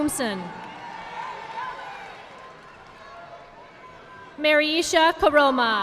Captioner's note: audience applauding